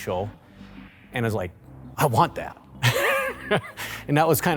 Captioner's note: laughs